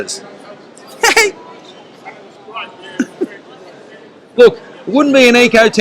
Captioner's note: giggles